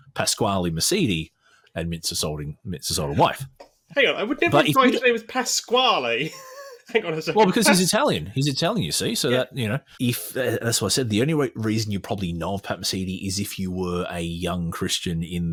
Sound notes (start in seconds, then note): 6.2 laughs